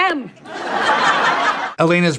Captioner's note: laugh track